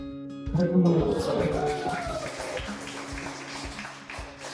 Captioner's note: people clapping